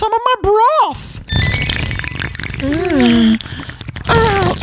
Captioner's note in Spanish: Ruidos de sorbido